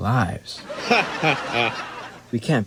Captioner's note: laughter